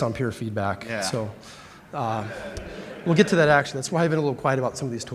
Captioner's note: laughter